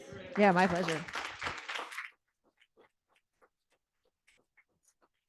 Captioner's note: audience applauding